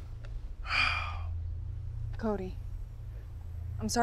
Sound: Cody sighs

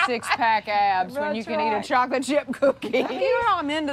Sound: laughs

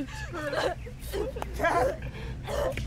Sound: cries

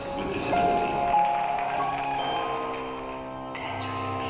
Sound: crowd cheers and claps

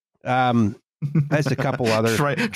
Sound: chuckles

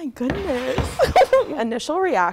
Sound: laughing

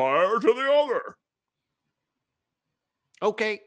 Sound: silence

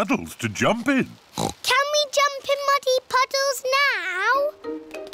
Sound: oinks

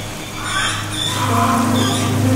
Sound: sqwak... RAaawwwwwwwkk

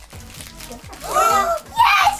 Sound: gasping

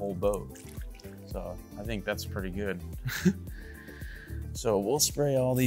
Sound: laughs

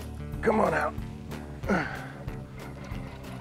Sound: grunt

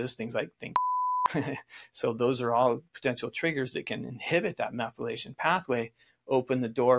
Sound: beep

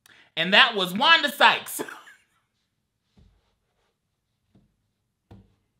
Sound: laughs

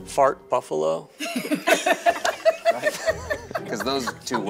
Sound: all laugh

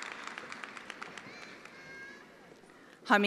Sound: attendees applauding

